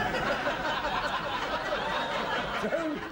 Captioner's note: laughter